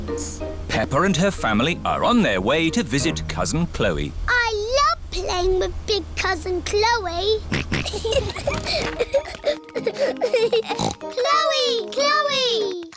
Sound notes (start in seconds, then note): 7.4 kids giggling; 7.5 snorts